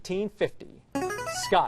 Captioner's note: buzzer